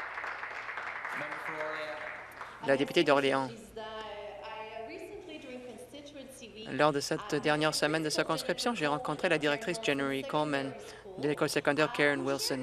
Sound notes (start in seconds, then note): 1.9 some Applause; 11.2 speaking French